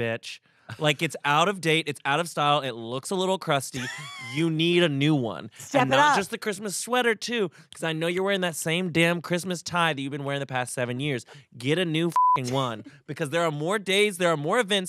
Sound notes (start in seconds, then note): 12.1 beep